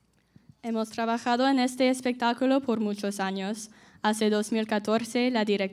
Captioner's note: speaking in Spanish